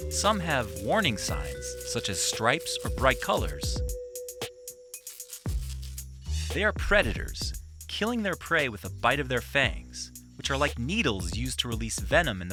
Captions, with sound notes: Some have warning signs, such as stripes or bright colors. (light music) (rattling) They are predators, killing their prey with a bite of their fangs, which are like needles used to release venom